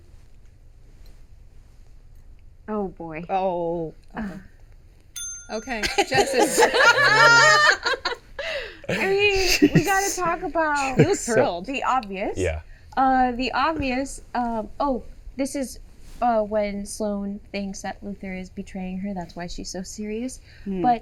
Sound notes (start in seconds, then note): 3.2 bell ringing; 5.8 laughing